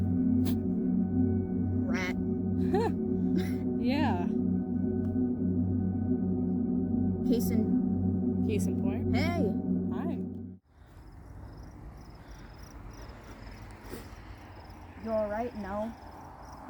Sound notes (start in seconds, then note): 2.5 laughing